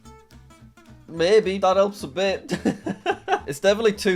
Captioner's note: laughs